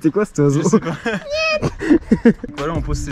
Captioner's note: human bird noise